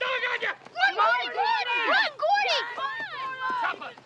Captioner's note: cheering